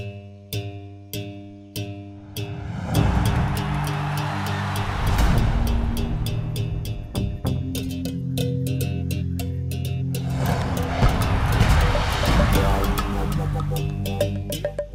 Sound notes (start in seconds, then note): 2.2 crowd cheering; 11.0 punches landing